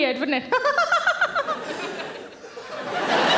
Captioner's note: laughing; audience laughing